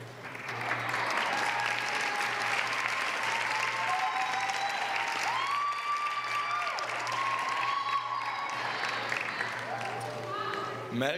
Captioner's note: applause